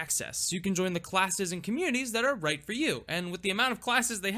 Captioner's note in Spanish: none